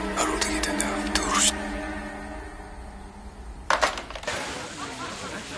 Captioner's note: whispering in foreign language; people laughing and talking